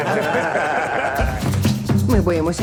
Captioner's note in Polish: śmiech